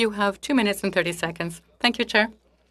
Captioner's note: speaking French